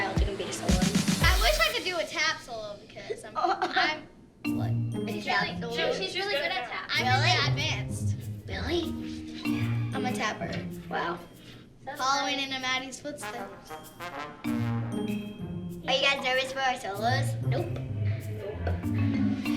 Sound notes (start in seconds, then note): 0.0 dynamic music plays; 4.0 laughs